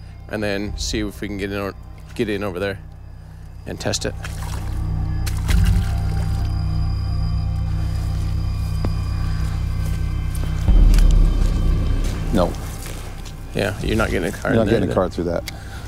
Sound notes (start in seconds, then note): 4.1 water splashing; 4.7 tense music